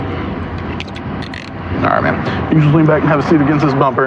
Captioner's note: handcdcufuff clclosos